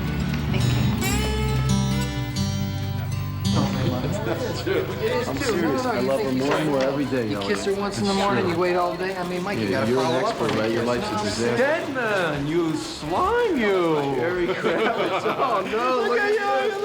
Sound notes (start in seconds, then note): 3.7 chattering